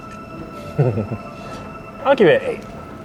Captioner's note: chuckles